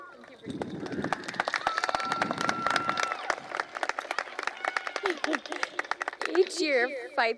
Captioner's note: cheering